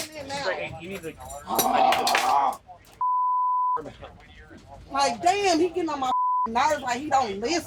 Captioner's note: groan